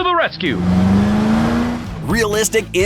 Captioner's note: car engine sound